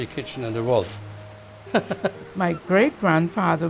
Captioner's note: laughs